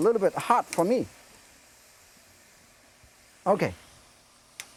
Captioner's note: vegetables sizzling